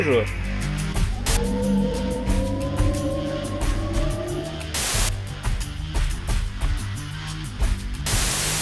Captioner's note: static; howling box engines; static